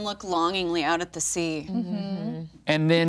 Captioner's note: others humming agreement